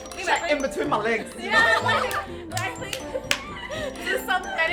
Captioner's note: laughs